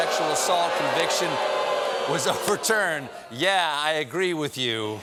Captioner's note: audience booing